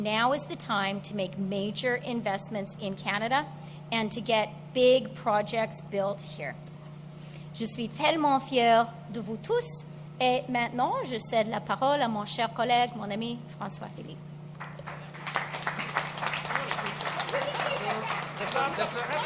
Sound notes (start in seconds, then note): 8.3 applause; 8.3 speaks French